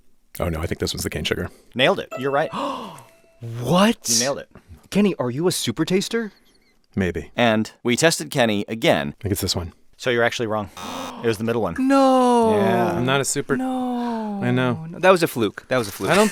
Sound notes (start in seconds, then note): 2.5 gasps; 10.8 buzzer beeping